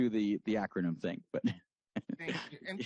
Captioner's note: laughs